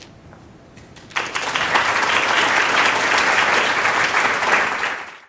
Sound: applause

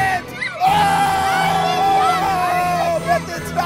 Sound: cheering

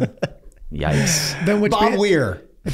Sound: Rob laughing

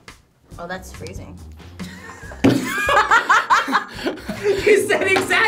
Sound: both laugh

